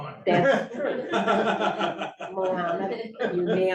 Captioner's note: laughter